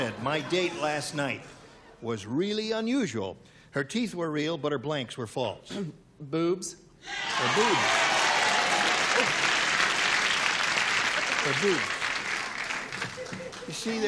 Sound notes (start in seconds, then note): 8.8 cheering